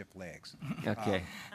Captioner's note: laughs